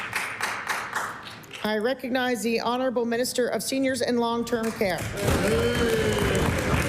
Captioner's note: applause